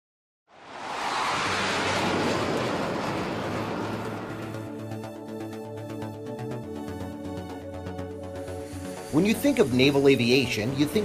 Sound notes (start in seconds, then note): 0.5 jet engine roars